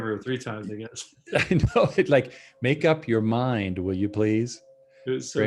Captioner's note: chuckles